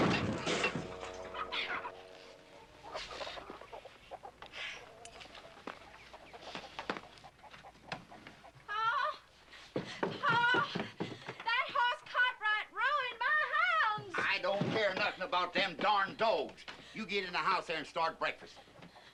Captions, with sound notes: ( panting ) PA. PA, THAT HOSS CARTWRIGHT RUINED MY HOUNDS. I DON'T CARE NOTHING ABOUT THEM DARN DOGS. YOU GET IN THE HOUSE THERE AND START BREAKFAST.